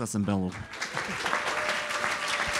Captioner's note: audience applauds